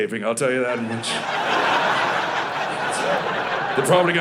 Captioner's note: audience laughing